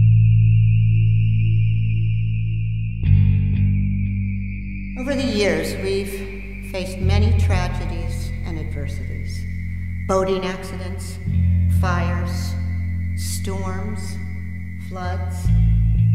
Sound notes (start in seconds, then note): 3.9 voice-over